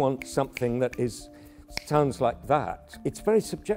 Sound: clicks fingers

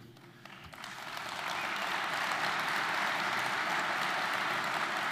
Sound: audience applauding

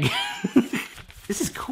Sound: laughs

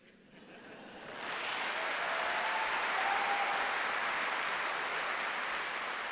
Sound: laughter; applause

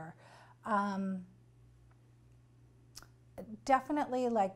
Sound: pauses for 3 seconds

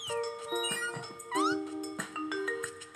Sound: squeaking

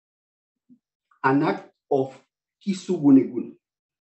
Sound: non-english speech

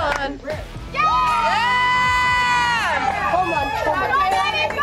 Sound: girls cheering

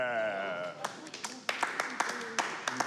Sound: clapping

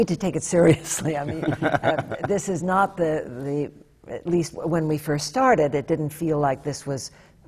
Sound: laughs

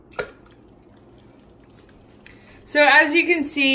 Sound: toy splashing

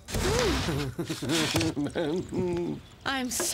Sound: <i>slobbering</i>

